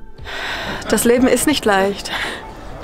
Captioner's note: sigh